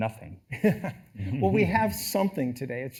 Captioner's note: laughs